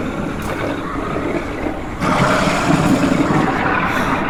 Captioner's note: guttural growling